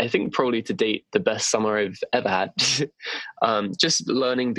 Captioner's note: giggle